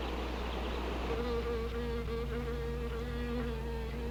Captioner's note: buzzing